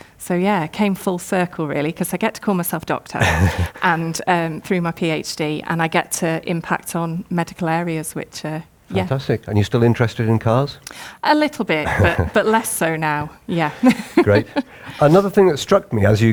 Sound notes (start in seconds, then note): 3.2 laughs; 11.8 laughs; 13.8 laughs